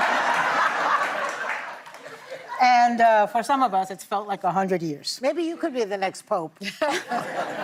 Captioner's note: laughter